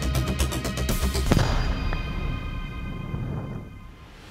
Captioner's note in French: explosion